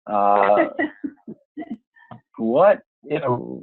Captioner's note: laughing